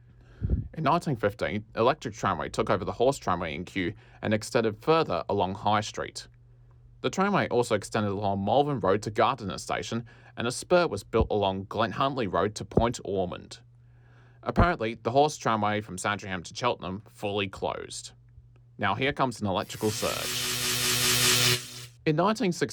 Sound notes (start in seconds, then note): 19.6 bzzz; 19.6 bzzzzzzzz